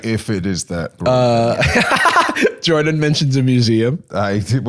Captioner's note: laughs